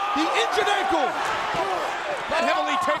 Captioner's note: Big Show screaming